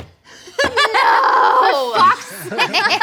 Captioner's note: laughing